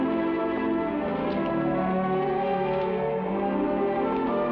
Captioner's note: lips smack